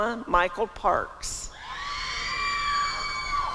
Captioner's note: applause and cheering